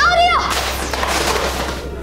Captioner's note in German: Gepolter